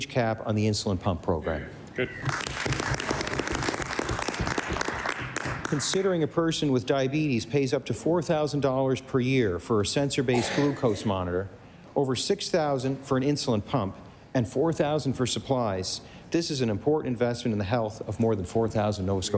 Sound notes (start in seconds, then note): 6.7 applause